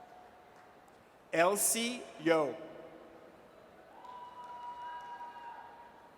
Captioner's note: audience cheers